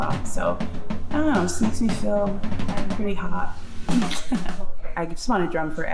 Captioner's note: chuckles